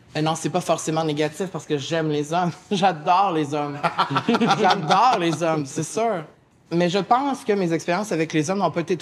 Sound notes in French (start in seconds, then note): 3.8 Rires